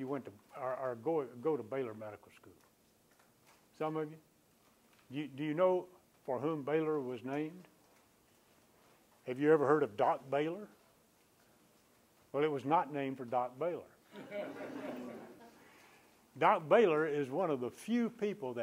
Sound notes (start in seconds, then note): 14.1 laughter